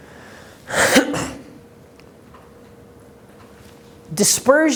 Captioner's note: clearing throat